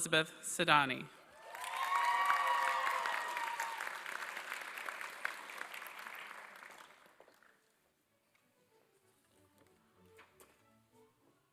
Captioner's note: applause